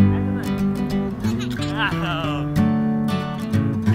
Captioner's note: laughter